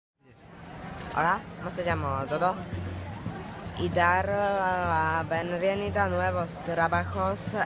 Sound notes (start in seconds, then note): 0.3 Spanish